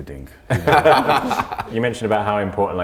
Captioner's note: group laughs